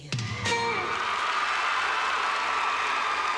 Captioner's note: applause